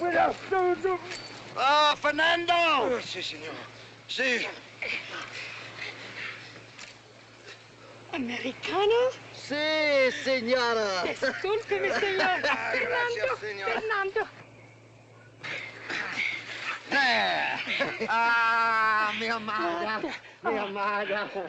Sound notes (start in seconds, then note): 0.0 shouting in spanish; 1.6 shouting; 8.1 in spanish; 17.7 shouting in spanish